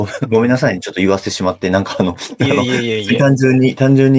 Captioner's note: laughs